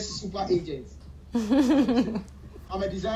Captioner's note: laughing